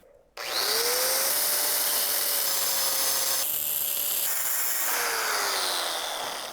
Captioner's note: saw whirring